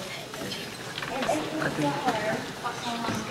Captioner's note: indistinct chatter